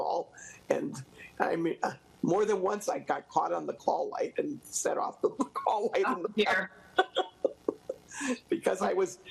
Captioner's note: laughs